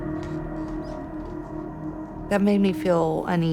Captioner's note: floor creaking